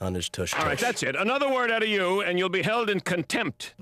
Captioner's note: pounds gavel